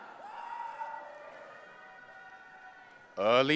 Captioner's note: audience cheering